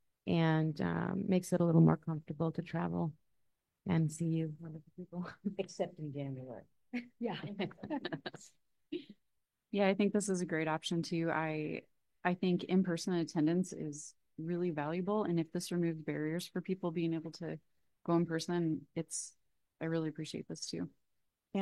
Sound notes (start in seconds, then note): 7.0 all laughing